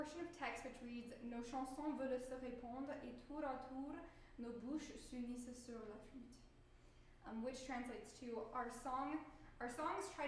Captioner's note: speaking french